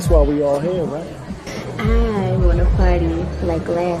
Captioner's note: voiceover